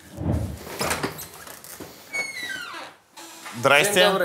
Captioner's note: door squeaks